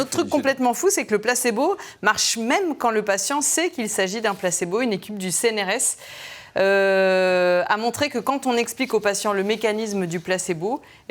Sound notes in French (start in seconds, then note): none